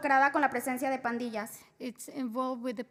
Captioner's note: spanish